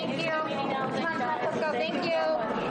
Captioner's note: reporters chattering continues